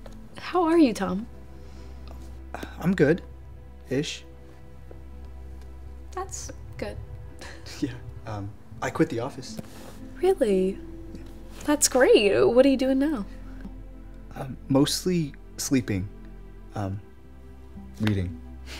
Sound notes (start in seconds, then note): 1.5 breathes